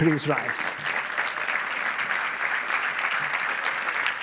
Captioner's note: audience applauds